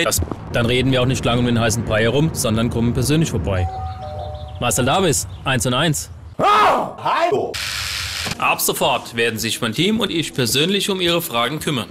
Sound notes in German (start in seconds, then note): 3.6 Ding Dong; 6.4 schrei